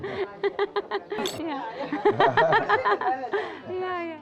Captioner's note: laughing